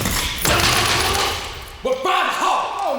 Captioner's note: chair rattling